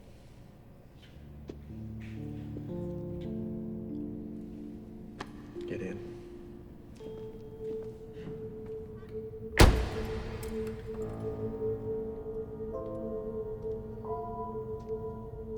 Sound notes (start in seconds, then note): 2.0 gentle music; 9.6 car door thuds; 12.5 suspenseful music